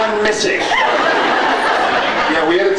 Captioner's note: laughs